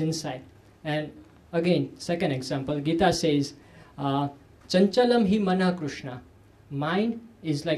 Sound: sanskrit

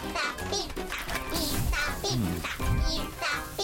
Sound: sizzling

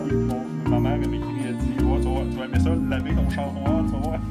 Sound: foreign language

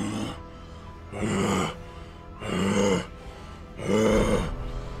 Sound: louder growling

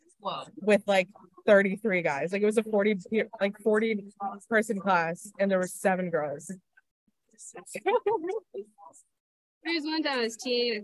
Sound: laughter

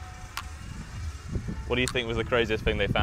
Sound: camera clicking

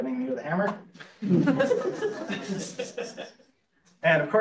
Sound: laughs

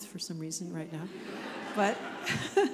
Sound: audience laughs; chuckles

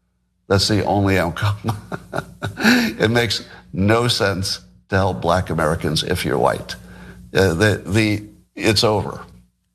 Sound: laugh

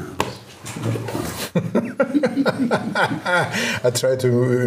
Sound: laughing

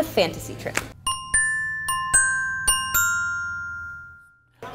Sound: bells chime

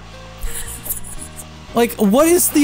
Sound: laughing

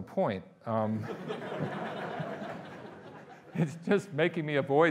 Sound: audience laughing

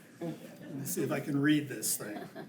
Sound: attendees and board members chuckle

